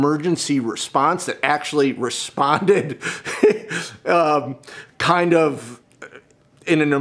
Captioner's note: laughs